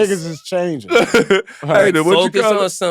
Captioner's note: laughing